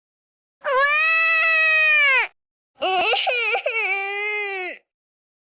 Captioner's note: crying